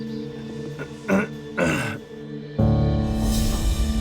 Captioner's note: clears throat